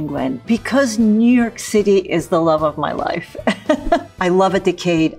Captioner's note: chuckles